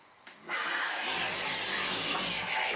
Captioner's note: grinding noises